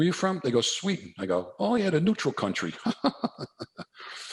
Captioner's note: chuckles